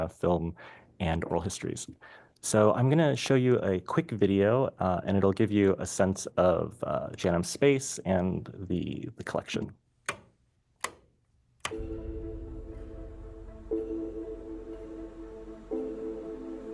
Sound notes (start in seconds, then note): 10.8 switches clicking; 14.0 gentle music